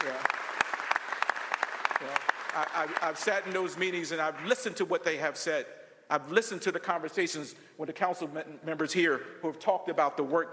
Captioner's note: applause